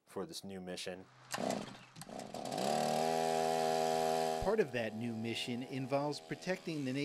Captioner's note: sound of the chainsaw buzzing